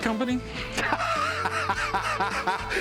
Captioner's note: laughs